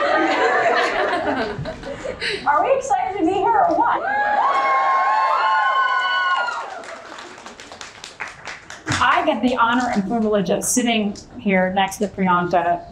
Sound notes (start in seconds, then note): 0.0 Cate and Priyanka chuckles; 4.1 audience applauding and cheering